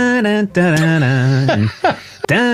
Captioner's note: humming